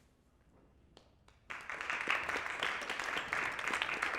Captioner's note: applause